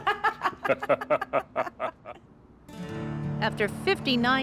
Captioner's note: both laugh